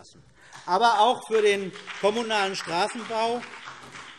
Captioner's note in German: Beifall BÜNDNIS 90/DIE GRÜNEN